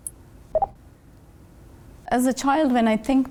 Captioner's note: robot beeps